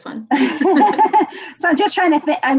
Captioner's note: laughs